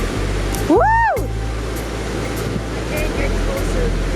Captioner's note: cheers